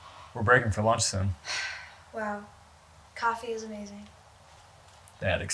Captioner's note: sighs